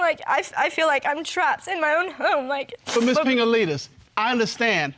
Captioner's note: stammering